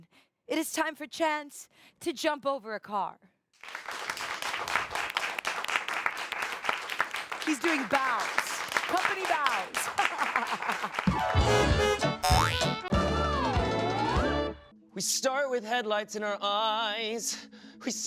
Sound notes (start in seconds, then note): 3.6 audience applauds; 10.9 upbeat music; 11.5 car horn honks